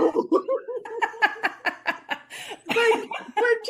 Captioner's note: laughing